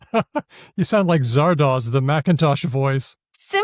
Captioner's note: chuckles